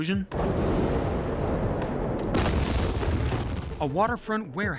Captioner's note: loud explosion